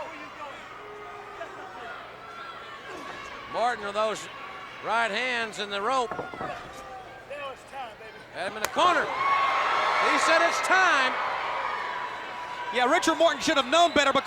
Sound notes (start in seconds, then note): 2.6 blows thudding; 6.0 footsteps plodding; 9.4 blows thudding; 11.5 crowd clamoring